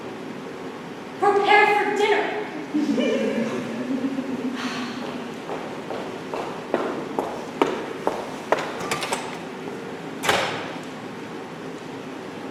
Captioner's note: scattered laughter, door opens offscreen